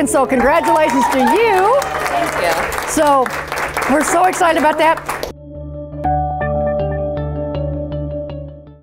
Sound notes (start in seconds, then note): 0.4 clapping